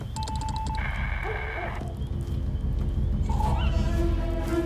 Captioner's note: dog barking; suspenseful music